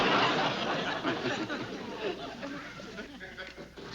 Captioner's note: laughs